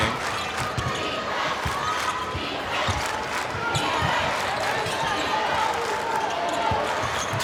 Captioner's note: crowd